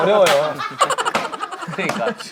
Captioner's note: laughing